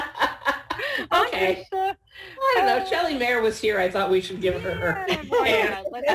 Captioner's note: laughter